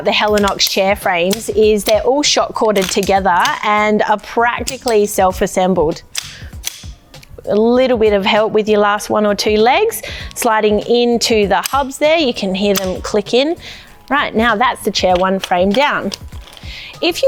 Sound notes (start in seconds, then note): 5.9 frame clicks into place